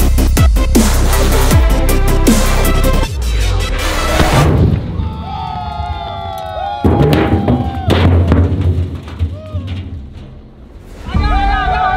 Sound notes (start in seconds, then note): 4.1 drums explode; 6.6 drums falling; 11.0 cheering